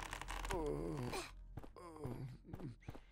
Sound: grunts softly

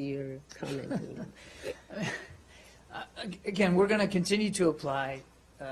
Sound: laughing

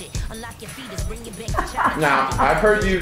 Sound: laughs

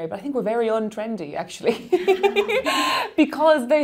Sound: laughing

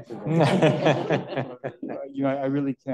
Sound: panelists laugh

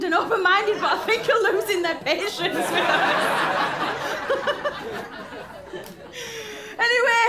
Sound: laughter

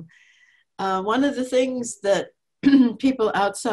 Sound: clears throat

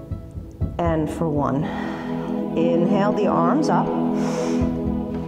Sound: exhale

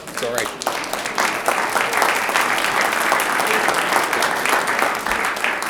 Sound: audience applauds

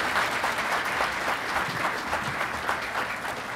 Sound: applause

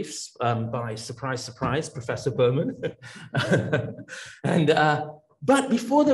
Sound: laughs

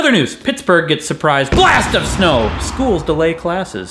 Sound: blasting noise

